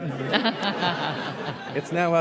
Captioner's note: laughter